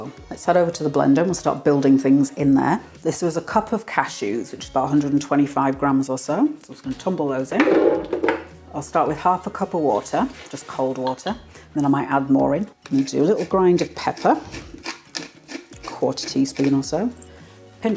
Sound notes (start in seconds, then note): 7.6 clunky tumbling